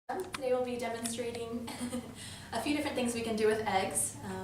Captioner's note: laugh